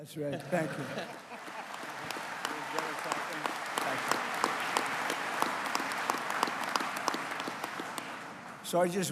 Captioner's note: applause